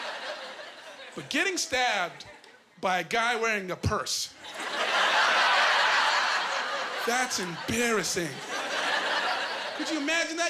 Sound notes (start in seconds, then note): 4.5 laughing